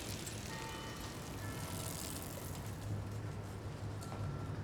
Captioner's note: church bells